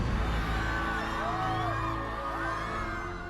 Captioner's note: crowd cheering